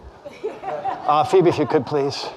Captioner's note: audience laughing